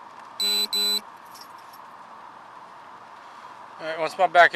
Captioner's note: radio beeping